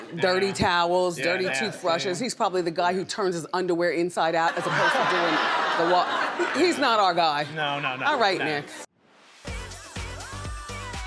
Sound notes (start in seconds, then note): 4.6 audience groans and laughs; 9.2 snappy music